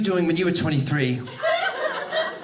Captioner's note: audience laughing